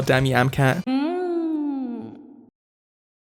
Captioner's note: A great fairy from Breath of the Wild letting out a pleasured moan